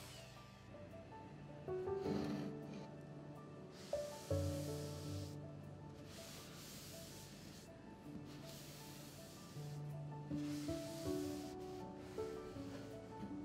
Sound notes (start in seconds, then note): 2.0 calming music; 2.0 towel softly brushing